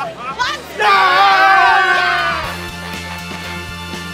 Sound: people cheer; bright music

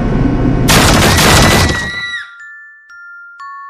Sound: girl screaming

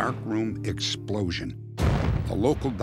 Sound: explosion

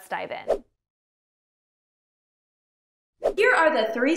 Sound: air whooshing

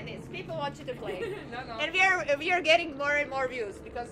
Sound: laughs

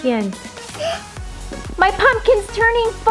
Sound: gasp

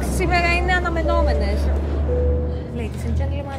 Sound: flight attendant speaking foreign language; airplane beeping; dramatic music starts

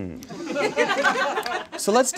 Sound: audience laughs

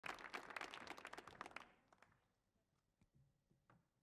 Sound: audience applauds

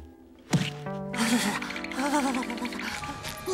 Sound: shivering

